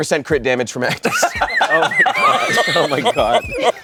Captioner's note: everyone laughs